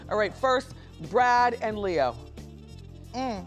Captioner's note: none